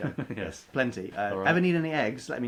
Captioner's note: laughs